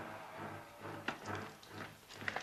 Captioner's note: undead moaning; dramatic music; footsteps clattering